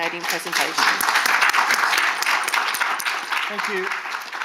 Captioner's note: audience applauding